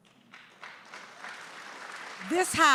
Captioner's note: audience applauding